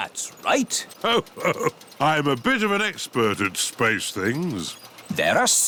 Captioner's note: chuckles